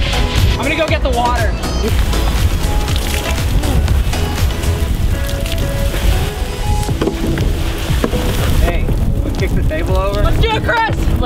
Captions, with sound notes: I'm gonna go get the water. (water hissing) - Hey, wanna kick the table over? - Let's do it Chris!